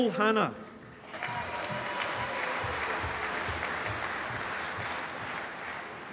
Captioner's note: applause